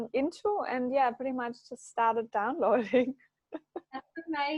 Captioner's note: laughs